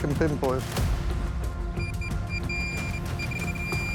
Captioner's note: beeping rapidly